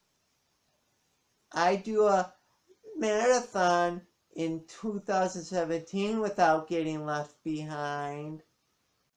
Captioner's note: voice cracks